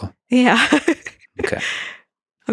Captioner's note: laughs